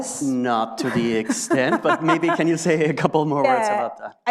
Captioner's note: laughs